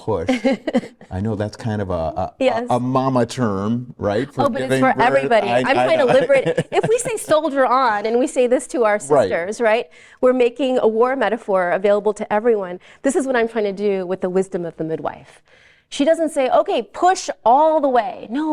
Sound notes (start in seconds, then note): 0.2 laughs; 4.2 laughing